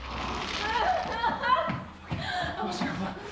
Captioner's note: squelching, creature scurrying sounds; Sarah in pain